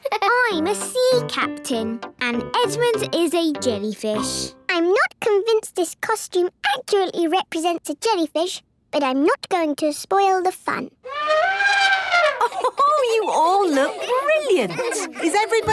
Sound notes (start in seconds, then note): 11.0 trumpeting; 11.9 Mummy Pig laughing